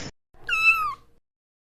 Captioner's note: meow!